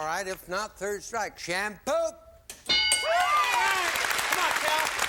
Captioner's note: applause